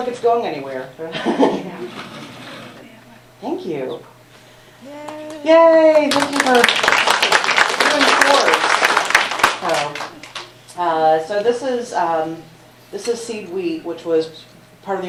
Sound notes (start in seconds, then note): 3.1 laughs